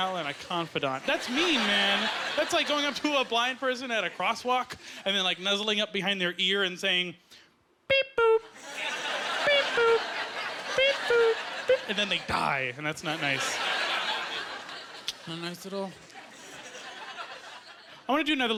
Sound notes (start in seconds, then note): 10.8 imitating crosswalk beeping